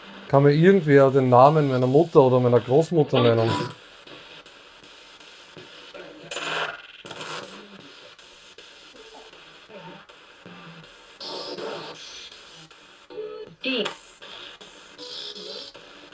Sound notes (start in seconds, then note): 4.4 sound of the Spirit Box in the background